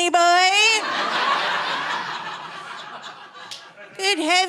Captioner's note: audience laughing